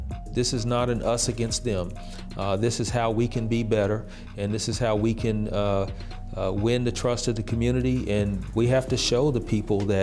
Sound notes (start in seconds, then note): none